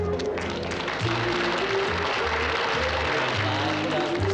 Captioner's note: audience applauds